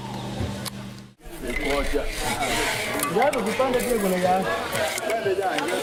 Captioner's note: chatter